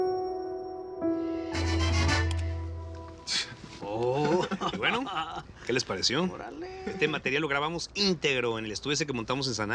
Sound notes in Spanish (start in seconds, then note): 4.2 Risas